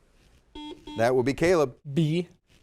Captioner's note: buzzer dings